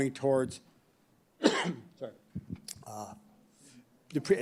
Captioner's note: coughs